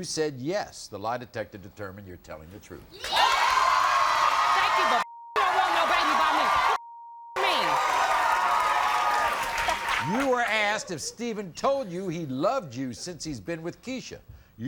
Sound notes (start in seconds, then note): 3.1 crowd cheering; 6.8 beep; 7.3 shouting; 9.6 laughing